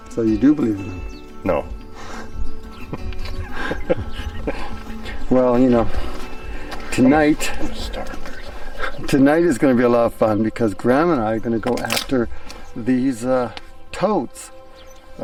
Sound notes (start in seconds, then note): 2.7 both chuckling; 7.8 speaking faintly